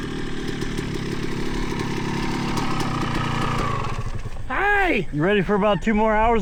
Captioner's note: engine roaring